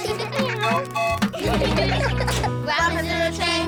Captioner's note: tooting; all giggling